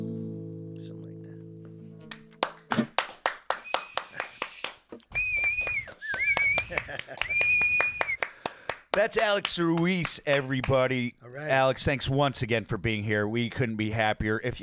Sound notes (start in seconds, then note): 2.4 clapping and whistling; 6.6 laughing